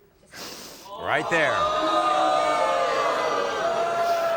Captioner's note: audience boos